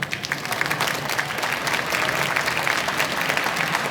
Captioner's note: applause